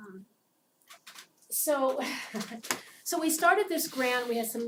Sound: laugh

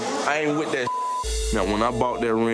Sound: beep

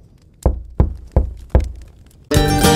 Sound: knocking on door

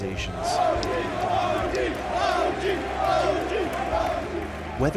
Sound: OG chants

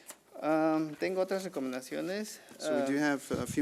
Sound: man speaking foreign language

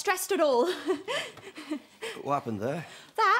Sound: laughs nervously

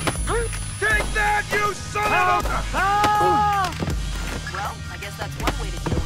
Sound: gun shots

